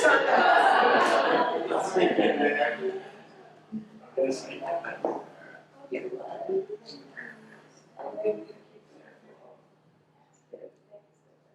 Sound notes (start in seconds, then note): 0.0 audience laughs; 6.4 audience chatter